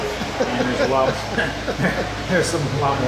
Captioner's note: both laughing